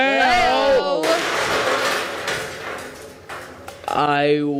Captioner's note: loud crash